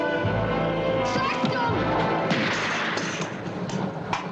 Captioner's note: gunshot